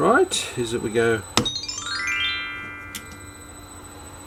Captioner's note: magic sound